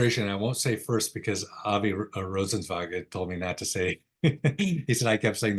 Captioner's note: laughs